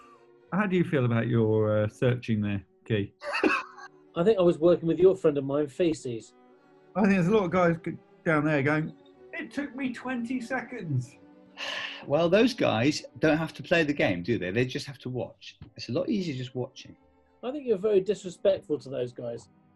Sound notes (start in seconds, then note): 3.2 laughing; 11.6 exhales